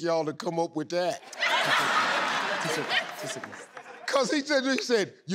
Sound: laughing

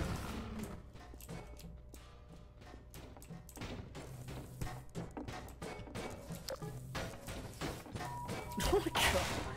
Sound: sound of random shit flying around the room

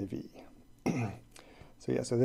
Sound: clears throat

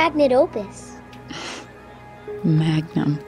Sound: laugh sigh

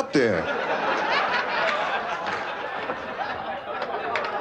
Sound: laughter

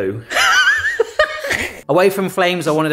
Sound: wheezes

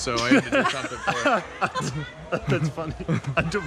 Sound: laughing

